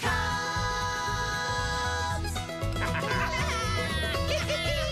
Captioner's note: lauaughghining